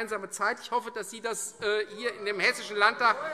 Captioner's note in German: Zurufe: Ui!